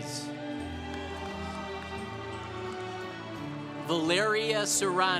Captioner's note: congregation cheering